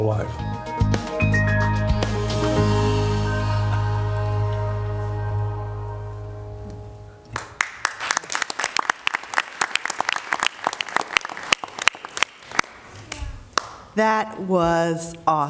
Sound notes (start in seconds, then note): 9.9 applause